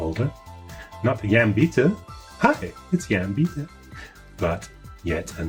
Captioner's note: speaking faintly